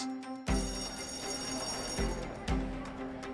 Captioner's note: bright music; bell ringing; student speaking faintly